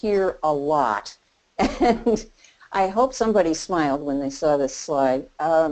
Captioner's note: laughing